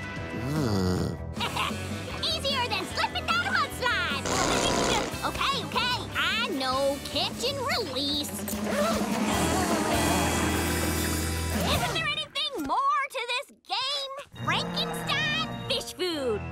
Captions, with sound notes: Ugh. [chuckling] Easier than slipping down a mudslide! Okay okay, I know, catch and release. Isn't there anything more to this game? Frankenstein Fish Food!